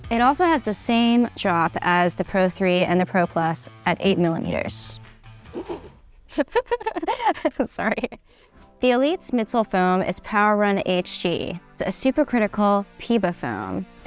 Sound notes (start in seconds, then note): 6.3 laughing